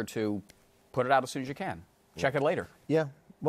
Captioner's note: fingers snap